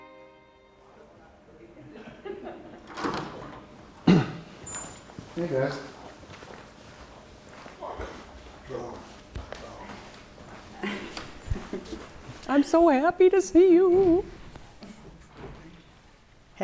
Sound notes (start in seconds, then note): 0.6 courtroom ambient sound